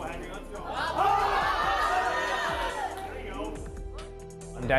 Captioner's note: crowd cheers